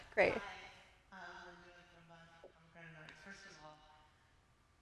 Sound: speaks softly

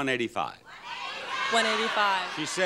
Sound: audience shouts incoherently

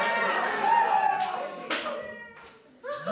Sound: audience cheers

